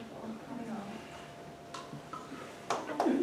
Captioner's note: applause